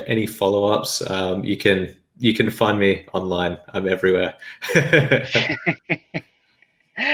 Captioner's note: laughing